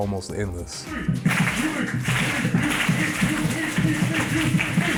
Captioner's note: clapping and chanting